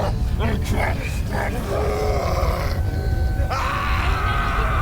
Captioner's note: Malkam groaning; Malkam screaming